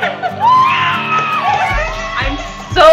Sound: cheering; horn

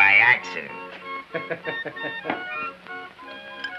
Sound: laughing

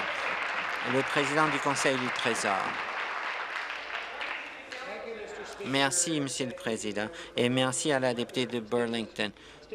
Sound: applause

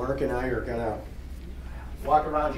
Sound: none

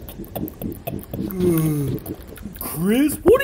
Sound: yawns

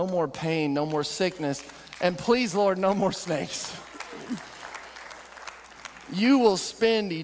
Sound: audience clapping

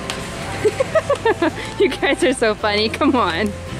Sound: laughs

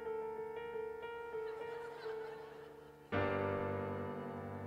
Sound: laughter

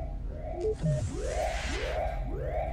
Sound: door beeps and whooshes; alarm blaring

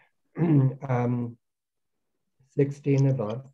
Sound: clears throat

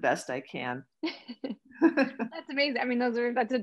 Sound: laughs

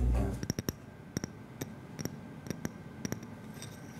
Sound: clicking

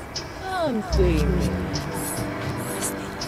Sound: voice from pipe

